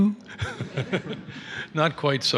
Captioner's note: laughter